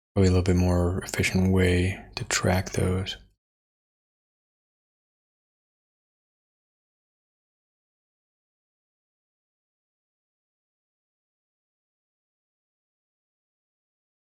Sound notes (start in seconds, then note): 7.3 blank Audio